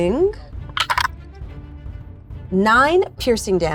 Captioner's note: die rattling